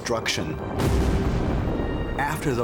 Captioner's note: explosion